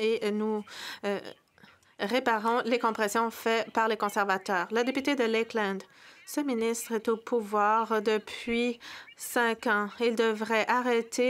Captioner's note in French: voix de l'interprète